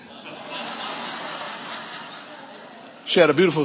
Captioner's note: audience laughing